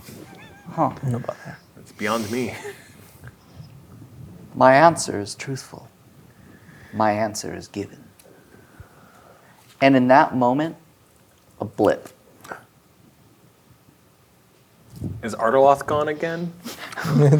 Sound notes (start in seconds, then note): 12.4 snaps